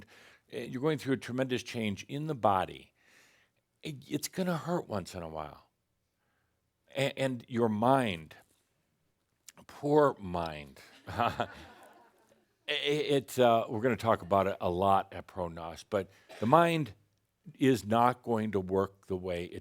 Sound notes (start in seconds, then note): 10.8 some chuckles